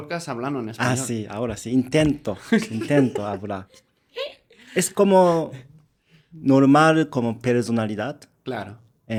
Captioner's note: laughs